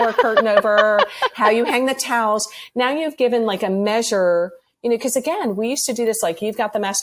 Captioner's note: laughs